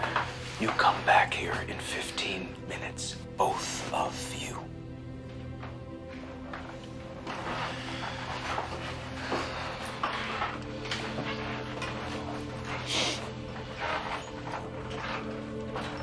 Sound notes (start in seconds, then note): 7.9 floorboards creaking; 7.9 quiet tense music